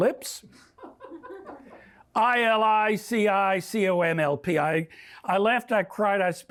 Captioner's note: laughter